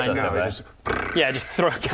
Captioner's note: brrrrrr